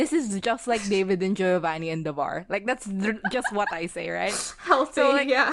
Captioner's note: laughs